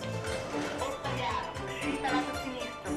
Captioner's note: automated announcements